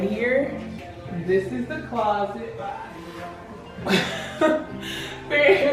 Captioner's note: laughs